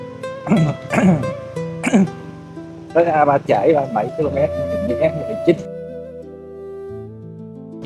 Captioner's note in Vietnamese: hắng giọng